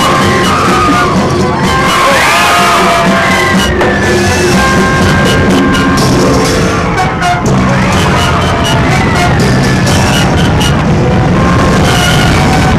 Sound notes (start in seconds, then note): 1.6 woman screams; 3.7 dramatic music; 3.7 worshipers yelling